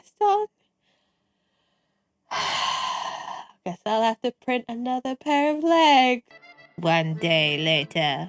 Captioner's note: sighs